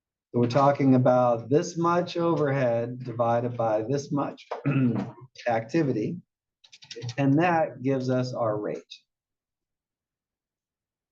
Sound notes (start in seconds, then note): 7.7 cough